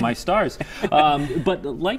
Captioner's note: laughter